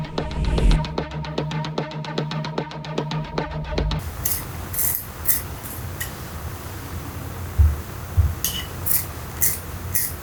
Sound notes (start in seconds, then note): 0.0 suspenseful music; 4.2 pencil scratching